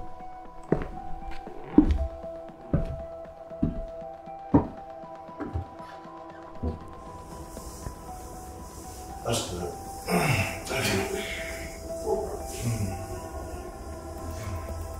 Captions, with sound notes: (footsteps) - That's good. (grunts) Thank you.